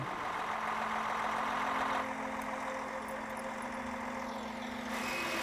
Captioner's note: lorry engine idling